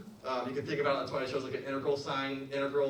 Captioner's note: mutters